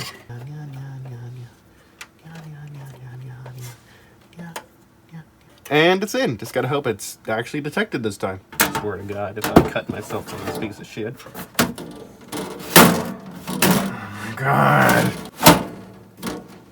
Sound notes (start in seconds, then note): 8.5 loud case side panel noises interrupting; 11.5 more loud side panel noises